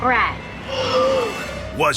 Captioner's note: gasping